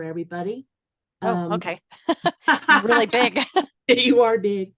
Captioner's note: laughter